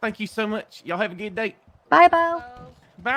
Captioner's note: law and order sound